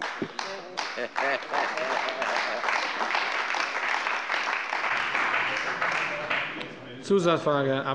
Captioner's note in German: Beifall bei der CDU und dem BÜNDNIS 90/DIE GRÜNEN